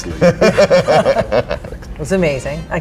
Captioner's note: all laugh